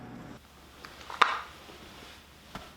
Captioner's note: shoes clacking